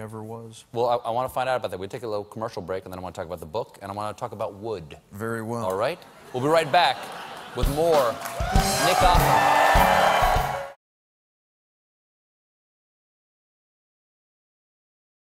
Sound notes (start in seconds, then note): 7.1 applause